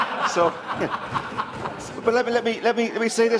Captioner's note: laughter